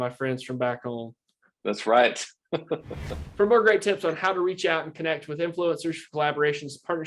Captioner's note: laughs